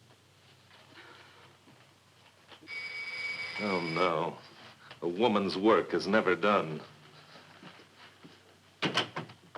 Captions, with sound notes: (doorbell ringing) - Oh no, a woman's work is never done.